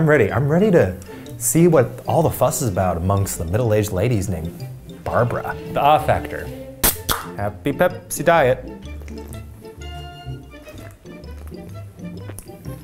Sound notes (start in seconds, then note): 6.8 soda can pops